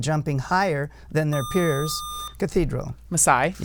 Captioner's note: buzzer